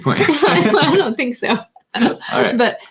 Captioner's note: laughing